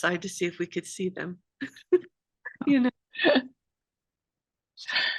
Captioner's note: laughter